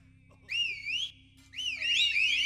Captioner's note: whistle